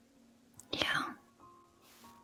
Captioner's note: whispered